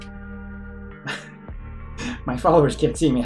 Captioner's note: Musky laughs